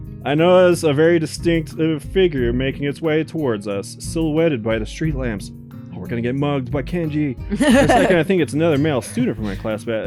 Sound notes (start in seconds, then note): 7.5 laughs